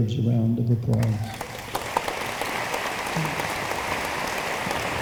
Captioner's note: room applauds